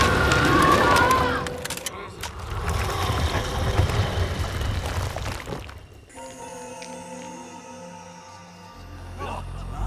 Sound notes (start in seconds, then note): 3.0 guns clicking; 6.0 eerie music